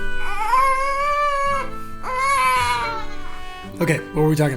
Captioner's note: baby crying